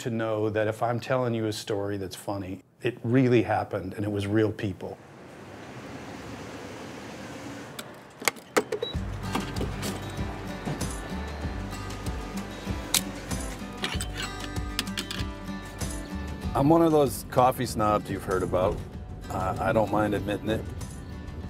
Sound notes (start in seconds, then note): 8.6 click, beep; 8.8 playful acoustic guitar; 13.0 click